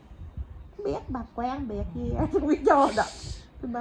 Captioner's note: cười